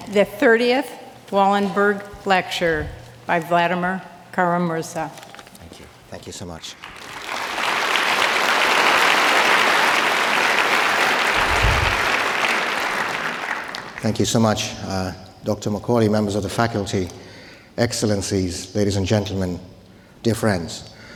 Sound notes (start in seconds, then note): 6.7 audience applauding